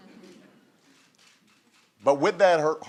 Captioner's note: laughter